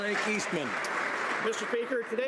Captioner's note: some Applause